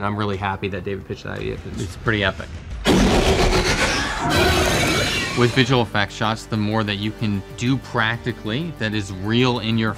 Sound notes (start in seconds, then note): 2.8 Demogorgon roar